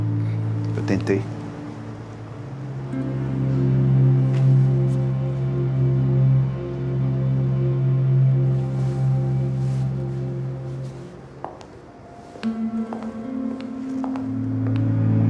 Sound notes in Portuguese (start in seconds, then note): none